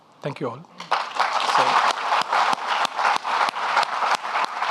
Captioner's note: audience clapping